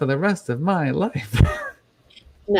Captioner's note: chuckles